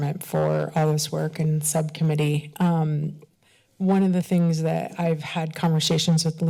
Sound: none

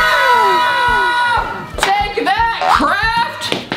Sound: yelling

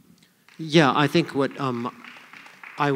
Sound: applause

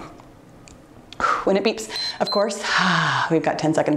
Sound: timer beeps

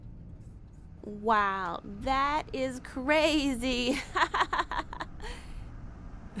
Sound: laughs

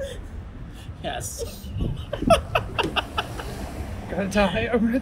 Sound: laughter

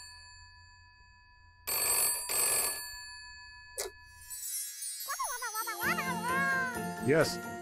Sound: phone Ringing; babbling

